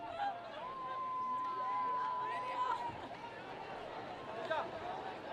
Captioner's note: students cheering and screaming